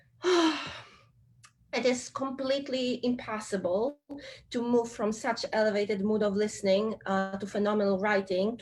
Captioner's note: sigh